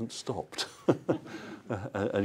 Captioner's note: laughter